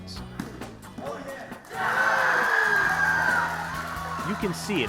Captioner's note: cheers